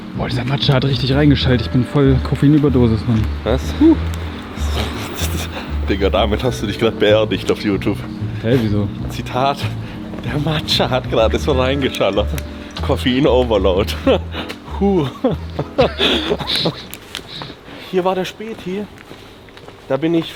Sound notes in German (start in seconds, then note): 14.8 gelächter